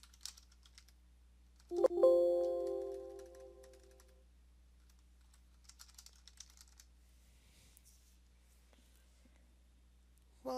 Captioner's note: computer pings